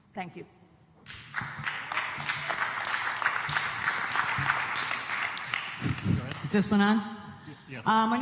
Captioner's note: applause